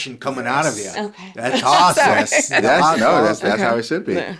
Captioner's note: laughs